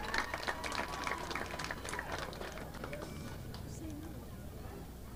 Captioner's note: audience applauding